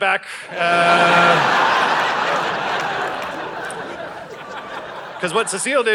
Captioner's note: audience laughing